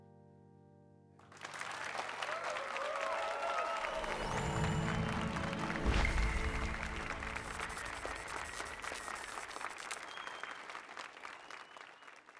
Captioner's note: applause and cheers